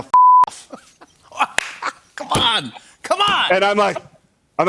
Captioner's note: laughs